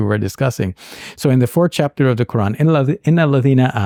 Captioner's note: speaking Arabic